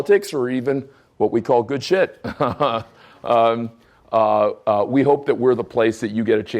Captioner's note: chuckling